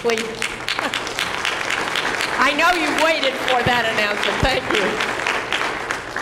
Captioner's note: applause